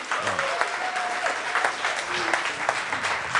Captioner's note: audience applause